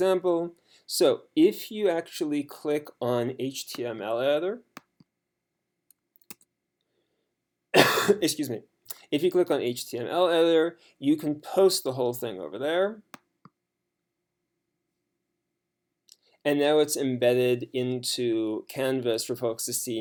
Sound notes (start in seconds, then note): 7.7 coughs